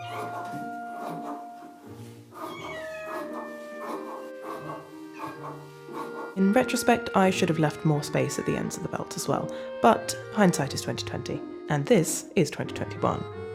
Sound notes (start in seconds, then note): 0.0 tiny mew; 2.4 longer meow; 4.7 indignant mew